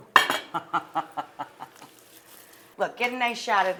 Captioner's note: laughs